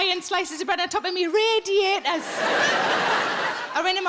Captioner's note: audience laughing